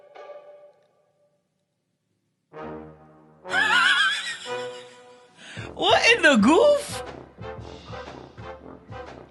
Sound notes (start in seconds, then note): 3.5 laughs